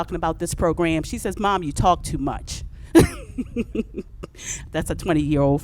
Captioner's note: laughs